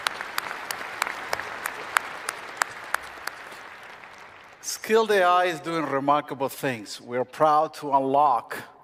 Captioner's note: applause